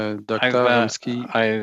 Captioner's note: speaking French